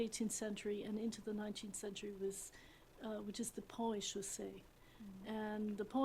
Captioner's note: french